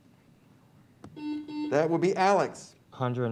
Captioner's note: buzzer beeps